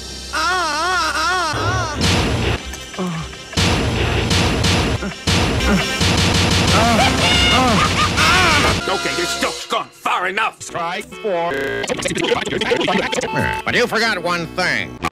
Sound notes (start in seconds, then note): 0.3 Hardtop shouting in palindrome, and shouting the same way twice; 2.2 clanggg; 2.6 clangnalc-clang clang; 5.1 clang; 6.7 shouts of panic/arousal